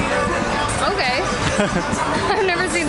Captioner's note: laughing